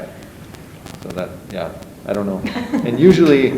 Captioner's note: chuckles